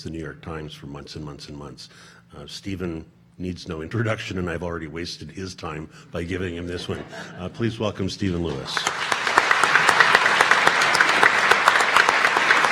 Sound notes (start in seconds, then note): 6.4 audience laughing; 8.4 audience applauding